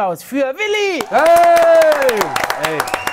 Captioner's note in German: Jubel